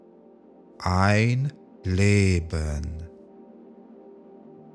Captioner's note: german